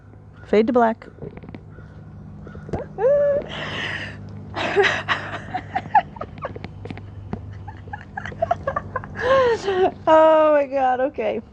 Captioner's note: stifled laughter noises